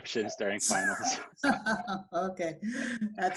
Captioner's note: laughing